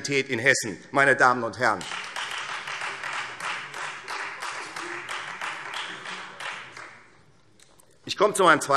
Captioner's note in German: Beifall Freie Demokraten